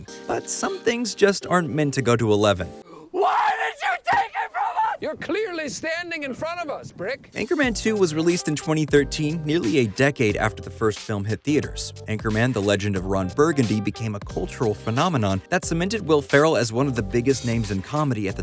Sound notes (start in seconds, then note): 3.1 yelling